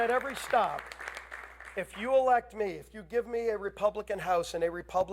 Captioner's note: applause